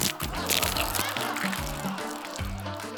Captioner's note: laughter